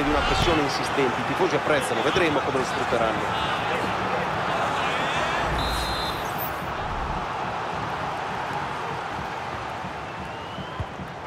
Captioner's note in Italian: Applauso